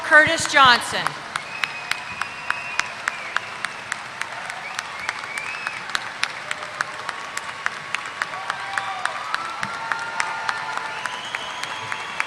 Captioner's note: applause